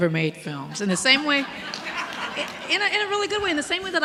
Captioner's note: audience laughing